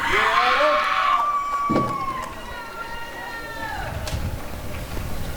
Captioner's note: applause and cheering